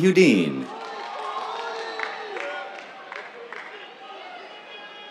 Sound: cheers, applause

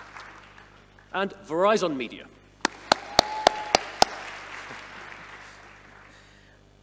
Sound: audience applauding

